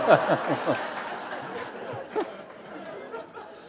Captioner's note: laughter